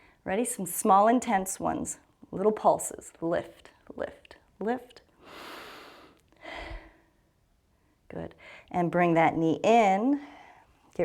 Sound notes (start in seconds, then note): 5.2 inhales and exhales